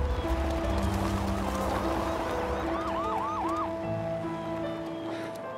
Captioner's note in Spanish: Suenan las sirenas